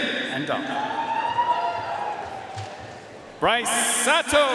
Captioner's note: audience cheering and applauding